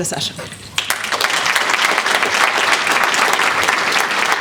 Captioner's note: applause